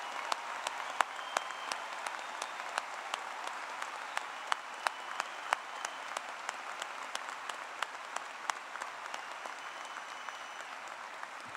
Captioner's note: applause